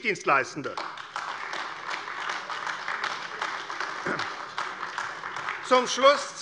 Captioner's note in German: Beifall AfD